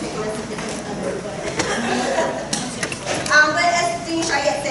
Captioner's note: laughter